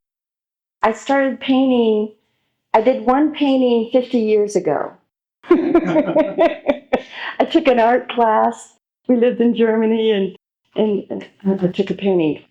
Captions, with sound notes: I started painting... I did one painting 50 years ago. (laughs) I took an art class, we lived in Germany, and I made a painting,